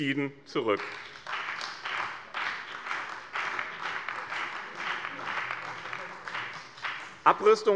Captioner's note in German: Beifall bei dem BÜNDNIS 90/DIE GRÜNEN, der CDU und bei Abgeordneten der SPD